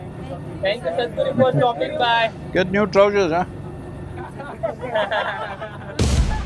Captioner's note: laughter